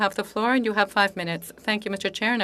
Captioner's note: speaking French